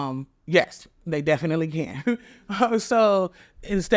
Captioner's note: chuckles